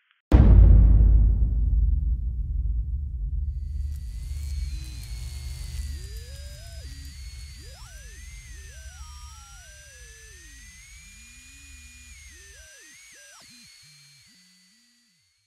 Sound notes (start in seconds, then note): 0.3 dramatic music; 3.4 electricity whirring